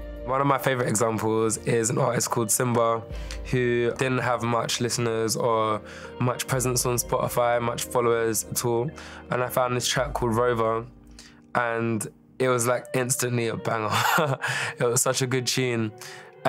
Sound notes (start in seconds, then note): 13.9 laughs